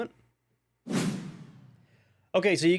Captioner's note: transition sound effect